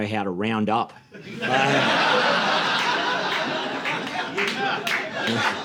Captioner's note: audience laughing